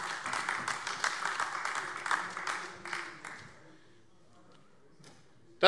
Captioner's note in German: Beifall AfD